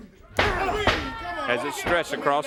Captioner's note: crowd chatter